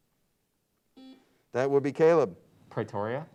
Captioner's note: buzzer beeps